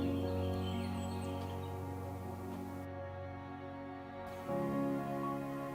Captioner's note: birds chirping; gentle music